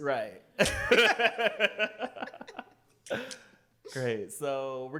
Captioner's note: laughter